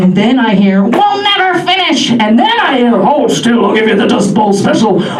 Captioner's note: old woman voice; old man voice